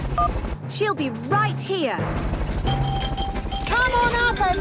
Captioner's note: phone beeps; distant helicopter noise